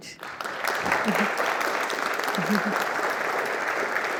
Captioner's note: audience applauding